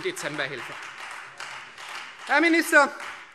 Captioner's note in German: Beifall Freie Demokraten